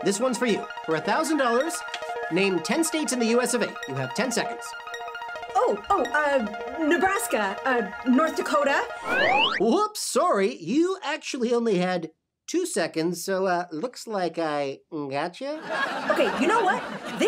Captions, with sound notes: this one's for you. For $1,000 name 10 states in the US of A. You have 10 seconds. - Oh, oh, uh... Nebraska, North Dakota- (slide whistle) - Whoops, sorry. You actually only had two seconds, so uh, looks like I Gotcha? (audience laughs) - Okay. You know what?